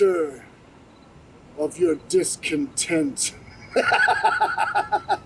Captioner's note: laughs